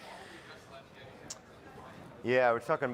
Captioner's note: crowd chattering